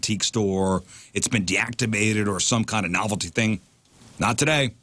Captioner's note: none